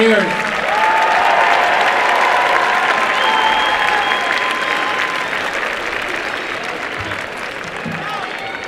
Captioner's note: applause and cheering